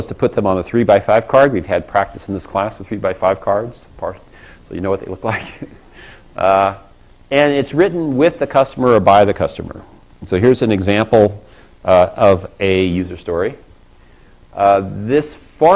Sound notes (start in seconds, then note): 5.2 laugh